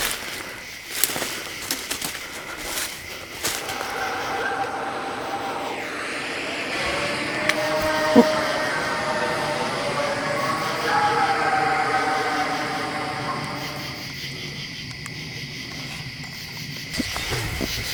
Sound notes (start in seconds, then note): 5.1 animals howling; 14.9 insects chirping